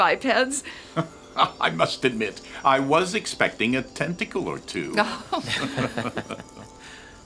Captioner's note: laughter